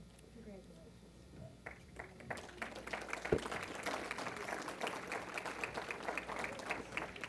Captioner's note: applause